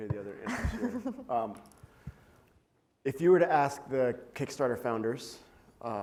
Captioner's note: laugh